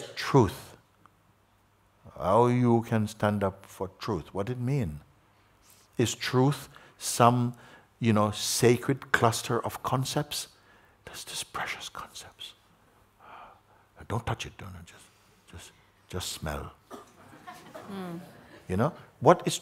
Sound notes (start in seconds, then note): 11.0 whispers; 17.0 laughter